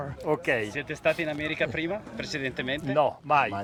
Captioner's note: speaking Italian